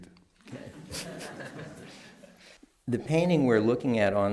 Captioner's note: laughter